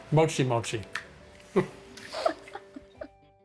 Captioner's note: both chuckling